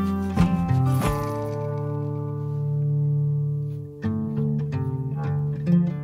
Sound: none

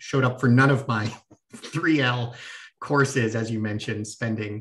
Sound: laughter

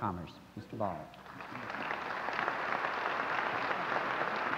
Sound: applause

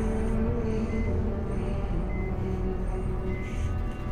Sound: machine beeping

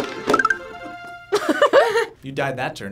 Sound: both chuckle

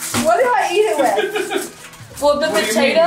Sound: laughs

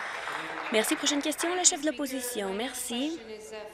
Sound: applause

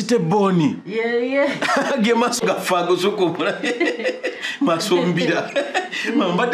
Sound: laughs

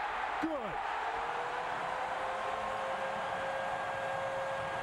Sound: cheering, applause

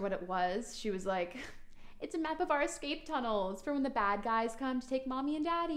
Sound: imitating young girl

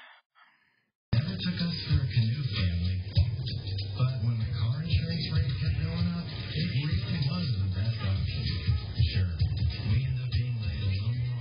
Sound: TV plays in background

